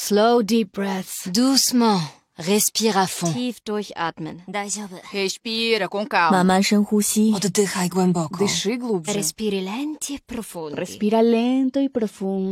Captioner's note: speaking in different languages